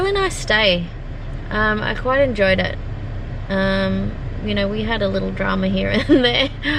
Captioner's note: scoffs